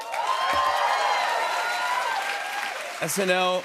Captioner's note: cheers and applause